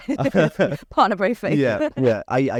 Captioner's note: laughs; laugh